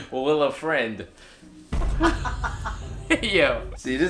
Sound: laughing

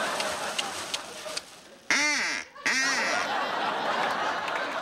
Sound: duck whistle quacks

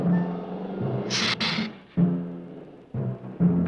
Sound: hissing

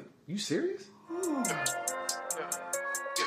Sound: KP sighs in relief; smooth hip hop

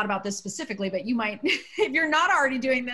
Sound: laughter

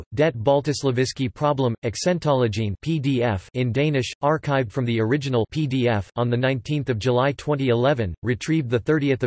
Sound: in Danish

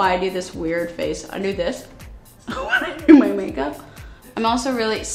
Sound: chuckles

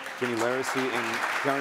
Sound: audience applause

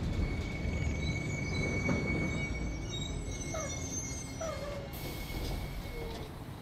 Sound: bus parking and door opening

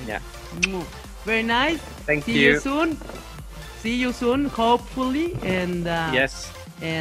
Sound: kisses

